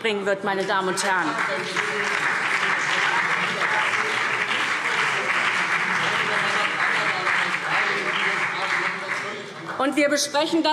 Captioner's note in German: Beifall SPD und BÜNDNIS 90/DIE GRÜNEN